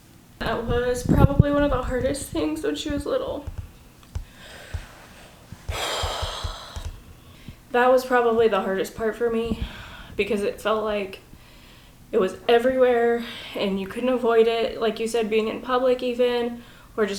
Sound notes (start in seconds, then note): 5.6 sighs heavily